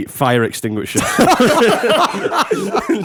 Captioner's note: laughter